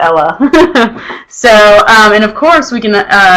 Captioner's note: chuckles